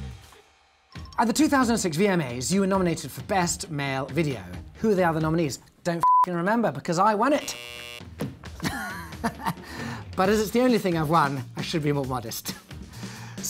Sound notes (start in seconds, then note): 1.1 ringing; 7.3 buzzer buzzing; 8.6 laughing